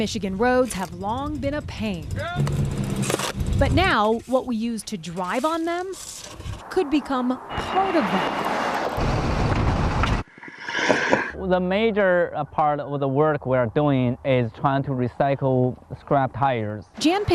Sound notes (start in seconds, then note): 0.1 rake clinking; 2.6 man shouting indistinctly; 8.9 vehicle whirring